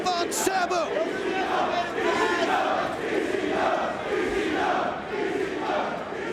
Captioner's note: spectators chanting "ECW!"